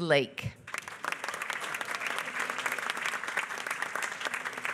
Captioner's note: applause